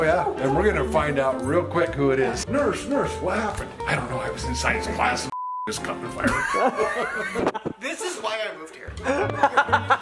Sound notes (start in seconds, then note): 5.3 beep